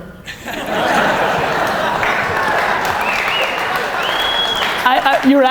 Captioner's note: audience laughter